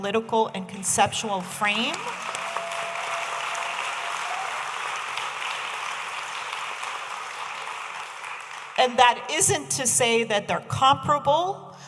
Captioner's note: audience applauding